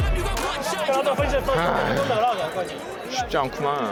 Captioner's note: sigh